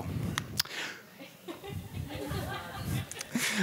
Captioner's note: laughing